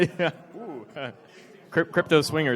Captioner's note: laughs